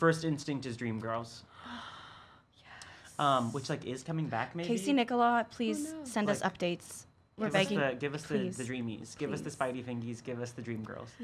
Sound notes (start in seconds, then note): 1.6 gasping